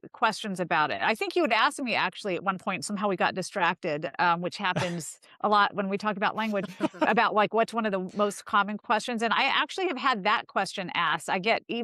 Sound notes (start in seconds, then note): 6.4 laughter